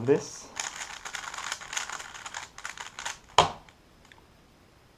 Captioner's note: cube noises